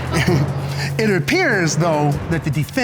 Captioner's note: scattered laughter